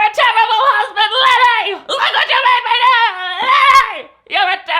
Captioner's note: yells incoherently